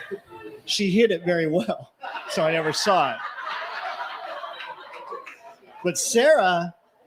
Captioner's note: laughter